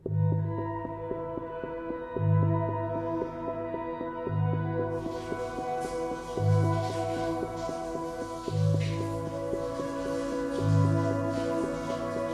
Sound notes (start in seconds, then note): 4.9 water splashing